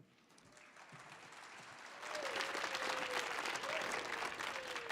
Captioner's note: audience applauding